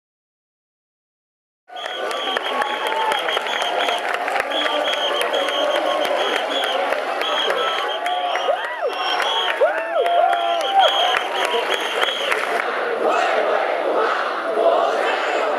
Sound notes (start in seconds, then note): 1.7 cheer sounds